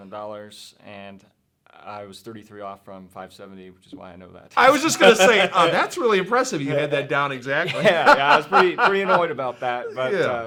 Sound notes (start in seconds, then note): 7.6 laughs